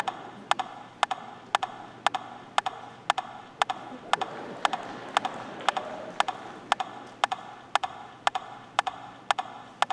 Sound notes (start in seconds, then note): 0.0 rhythmic tapping